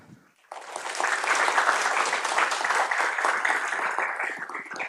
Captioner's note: applause